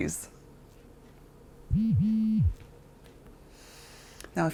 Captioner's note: phone buzzes